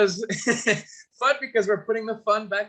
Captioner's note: chuckles